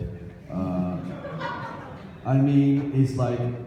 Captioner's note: audience laughs